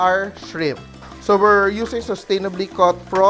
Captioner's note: sizzle